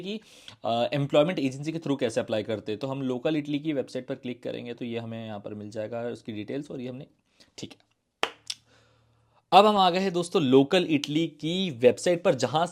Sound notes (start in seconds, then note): 8.2 claps